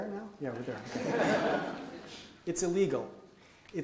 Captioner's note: audience laughs